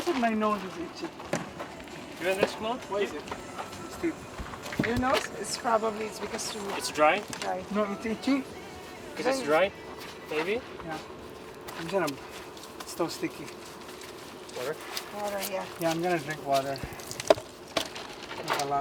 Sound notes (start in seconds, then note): 2.3 crew chattering; 7.8 speaking in foreign language